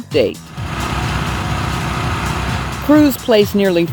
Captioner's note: concrete pouring